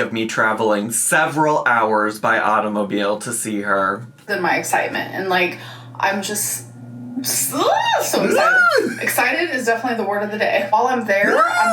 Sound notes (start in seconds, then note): 6.7 squeals; 11.2 squeals